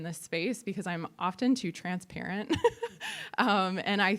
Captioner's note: laughs